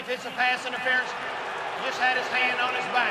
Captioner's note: booing